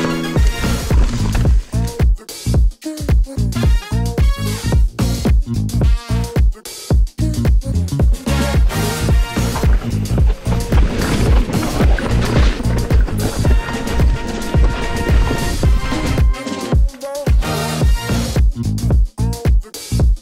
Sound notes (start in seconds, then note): 0.1 upbeat groove music continues; 9.3 gravel crunching softly; 16.1 upbeat groove music continues